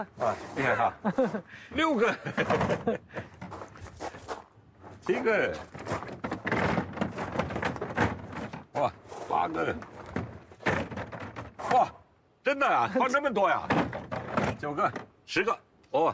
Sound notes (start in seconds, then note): 0.0 laughs